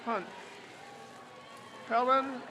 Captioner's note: crowd cheers